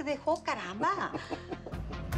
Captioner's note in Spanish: Risas